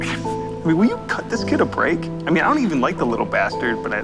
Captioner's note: scoffs